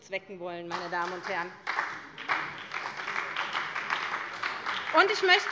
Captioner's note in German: Beifall bei der SPD